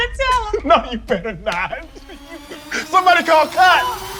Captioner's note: laughs